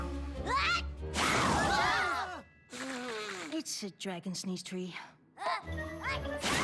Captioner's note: blowing